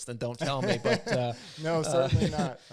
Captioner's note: both laugh